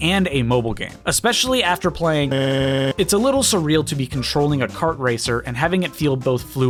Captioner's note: audio glitch